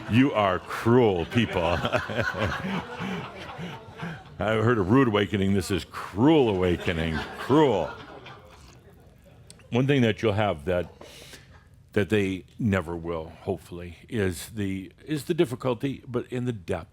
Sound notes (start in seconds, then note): 0.4 laughter, and some say “No!”; 1.4 Adamus chuckles; 8.1 more chuckles